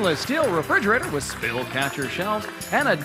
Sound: cheers and applause

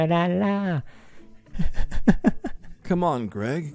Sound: laughing

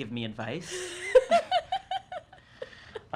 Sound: laughing

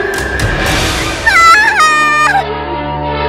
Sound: child yells

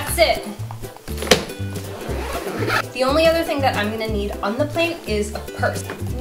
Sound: sound of zipper zipping

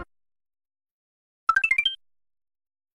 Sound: 16-bit 1UP sound

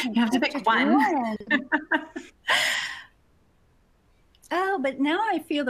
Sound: laughs

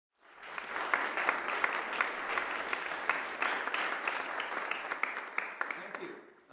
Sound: applause

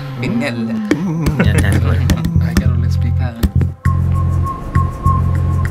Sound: chattering

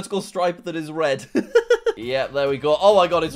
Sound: laughs

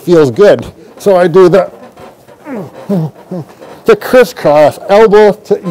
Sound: groans

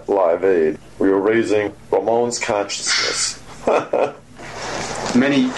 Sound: laughs

